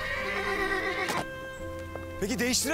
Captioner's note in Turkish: At kişnemesi